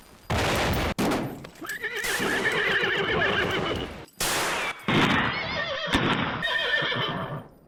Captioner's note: guns banging; horses neighing